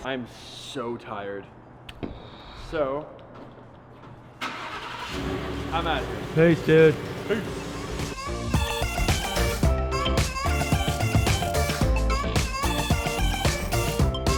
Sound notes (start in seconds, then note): 4.4 car starting; 7.4 upbeat techno music